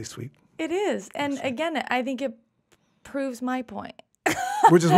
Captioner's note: laughs